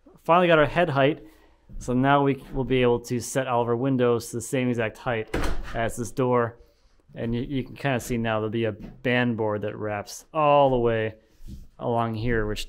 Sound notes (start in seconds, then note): 5.2 door thumping